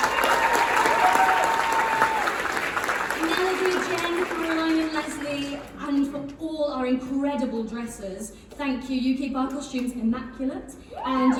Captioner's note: applause & whistling